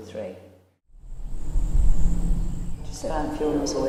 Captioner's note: nature sounds